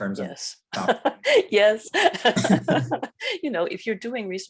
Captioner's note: chuckles